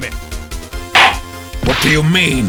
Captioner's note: gavel slams!